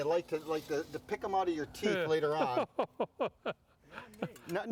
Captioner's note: laughs